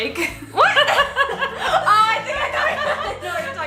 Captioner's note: laughs